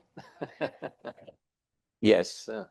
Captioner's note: laughs